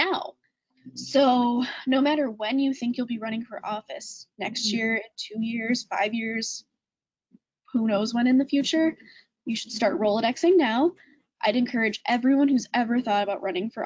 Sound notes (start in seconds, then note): none